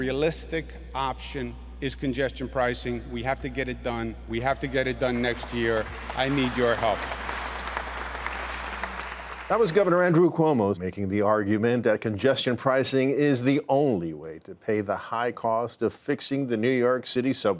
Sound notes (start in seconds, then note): 8.8 applause